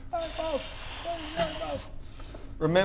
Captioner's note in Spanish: gritos distantes de "¡Bob!"